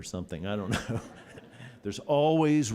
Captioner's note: laughter